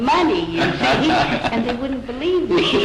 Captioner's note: laughter